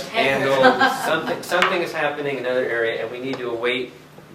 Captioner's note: laughter